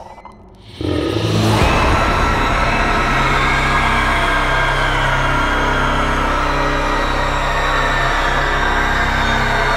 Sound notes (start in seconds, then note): 0.4 tense dramatic music; 0.8 banshee screaming